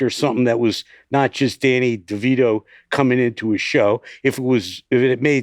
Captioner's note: none